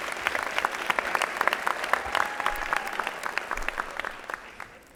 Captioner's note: applause